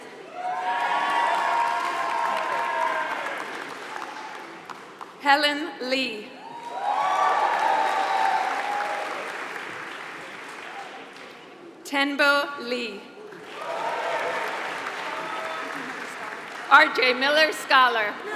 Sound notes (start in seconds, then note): 0.3 applause; 6.5 applause; 13.2 applause